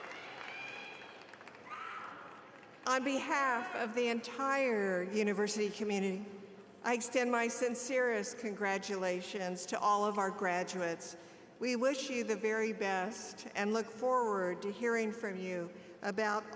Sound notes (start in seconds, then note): 3.1 applause